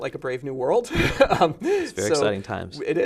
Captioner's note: laughter